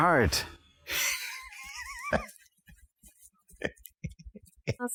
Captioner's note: laughing decidedly